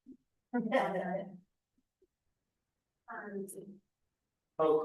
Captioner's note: people chuckling